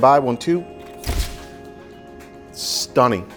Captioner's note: camera shutter clicking